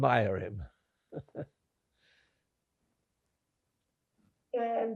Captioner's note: laughing